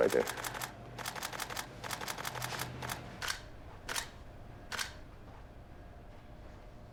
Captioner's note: camera clicking